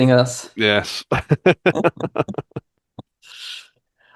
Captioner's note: laughs; chuckles